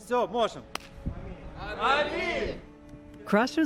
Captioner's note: speaking Ukrainian